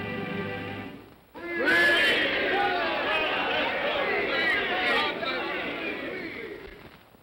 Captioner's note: indistinct cheer